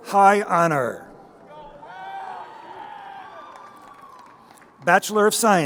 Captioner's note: crowd cheering